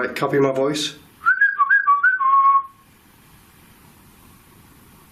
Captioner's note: whistling